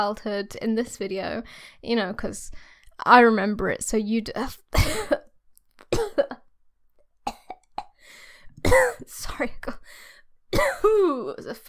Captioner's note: laboured coughing